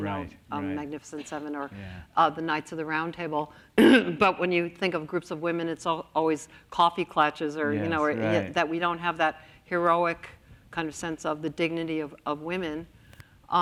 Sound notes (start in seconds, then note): 3.8 coughs